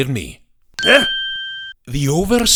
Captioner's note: surprised grunt!